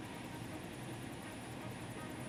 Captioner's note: helicopter blades whirring